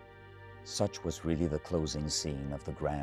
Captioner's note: voiceover